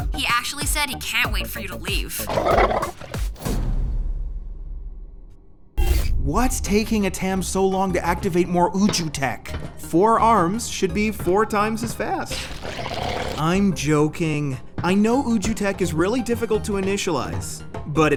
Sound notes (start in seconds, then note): 12.4 2Bells growling